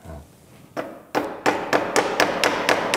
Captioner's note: hammering